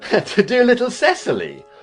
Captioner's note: laughing